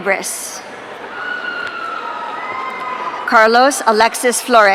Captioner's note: audience cheering